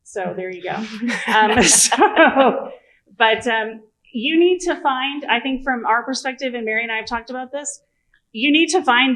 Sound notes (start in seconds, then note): 2.6 laughter